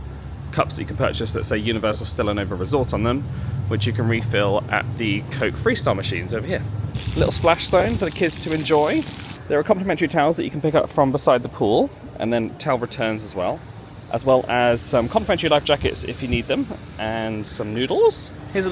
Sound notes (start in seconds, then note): 6.9 water splashing